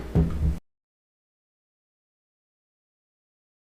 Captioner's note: gavel bangs